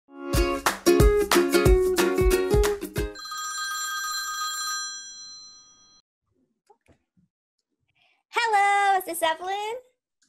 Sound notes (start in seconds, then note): 0.2 intro Music; 3.1 phone rings